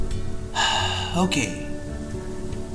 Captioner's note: sigh